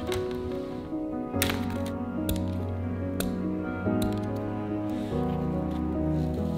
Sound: scissors snipping; classical music; fabric rustling

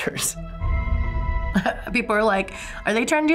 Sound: eerie music; chuckles

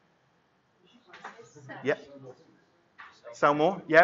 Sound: chattering

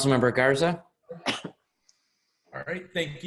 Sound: coughs

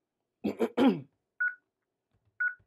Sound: beeping

